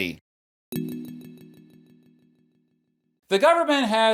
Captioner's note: tune chiming